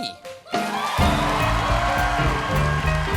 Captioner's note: cheers and applause